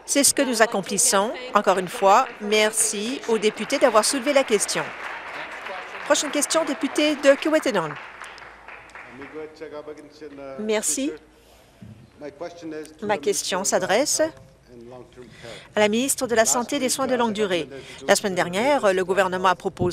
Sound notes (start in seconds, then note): 6.5 applause